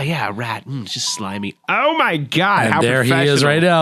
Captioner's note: cell phone goes off